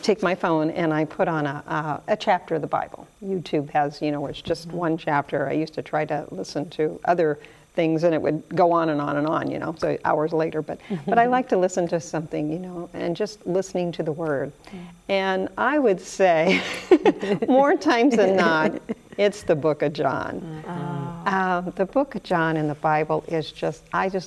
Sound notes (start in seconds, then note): 16.5 chuckles